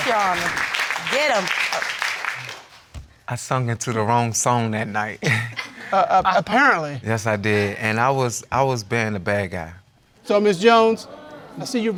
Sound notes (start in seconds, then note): 5.2 chuckles